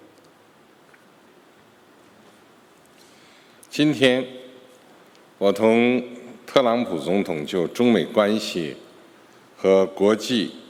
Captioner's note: speaking Mandarin Chinese